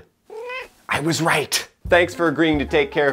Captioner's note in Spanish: Maullido de Mr. Whiskers